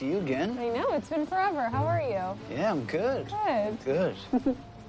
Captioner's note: Andie giggles